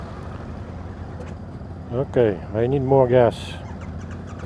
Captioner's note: throttle